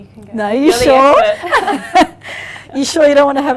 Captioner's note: laughs